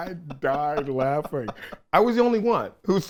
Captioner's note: everyone laughs